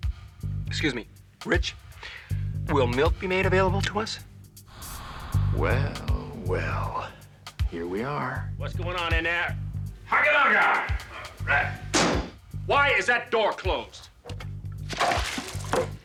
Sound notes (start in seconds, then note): 10.0 exclaiming